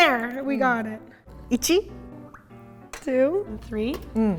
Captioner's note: speaking in Japanese